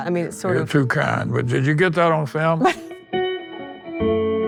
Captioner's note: laughter; peaceful music playing